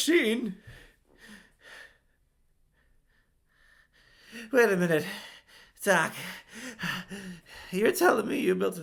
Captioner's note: heavy breathing